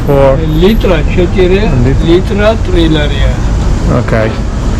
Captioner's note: speaking Italian; wine seller speaking Georgian